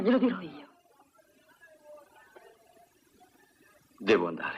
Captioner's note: men laughing